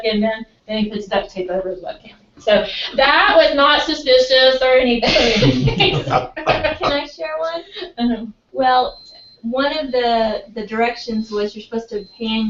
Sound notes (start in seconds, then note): 4.9 laugh